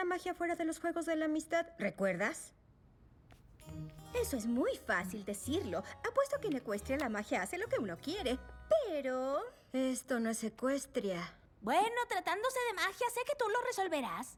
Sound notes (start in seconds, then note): none